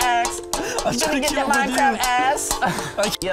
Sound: laugh/Inhale

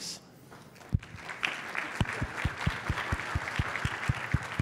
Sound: clapping

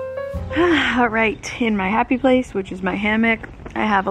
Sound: sighs

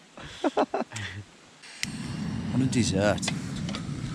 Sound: chuckling

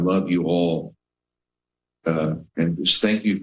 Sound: pause

